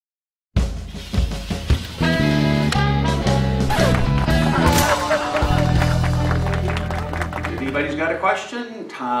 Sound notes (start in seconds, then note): 0.7 applause; 0.7 laughter